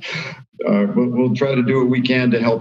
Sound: laughing

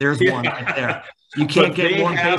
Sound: laughs

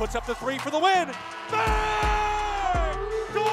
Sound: male announcer screams

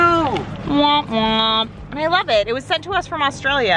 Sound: makes error noise

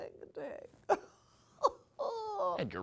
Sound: laughs

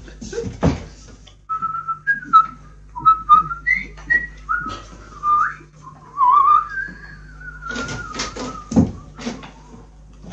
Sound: sound - whistles

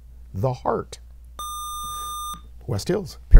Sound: buzzer

